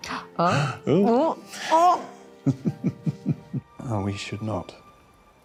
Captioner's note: chuckling